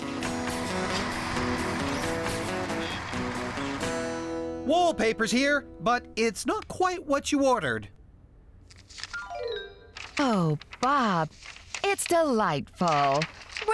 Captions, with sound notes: ( Engines Running ) WALLPAPER'S HERE! BUT IT'S NOT QUITE WHAT YOU ORDERED! OH, BOB, IT'S DELIGHTFUL!